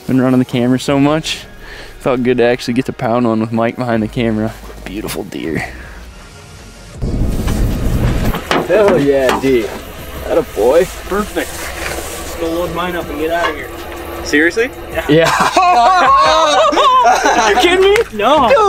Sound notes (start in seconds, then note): 15.0 all laugh